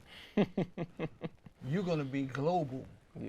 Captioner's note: laughs